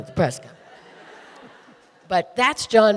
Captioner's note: audience laughing